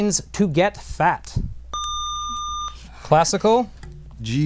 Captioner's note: buzzer